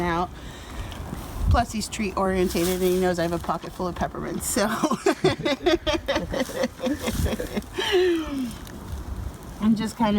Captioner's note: laughs